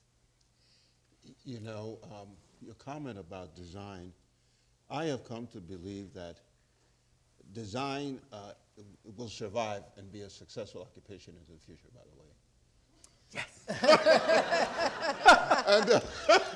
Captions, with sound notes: - Your comment about design, I have come to believe that design will survive and be a successful occupation in the future by the way. (laughing)